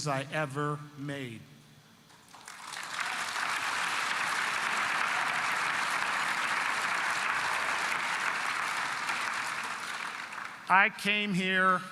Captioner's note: applause